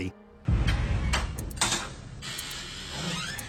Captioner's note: timer ticking